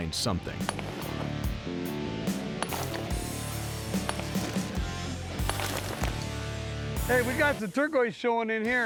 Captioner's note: rocks clink